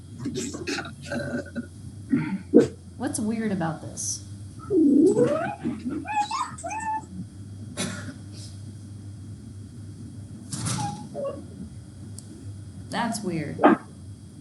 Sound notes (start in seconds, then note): 0.3 dog growling; 4.7 dog whimpering; 14.2 student speaking softly